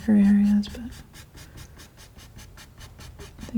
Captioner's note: scratching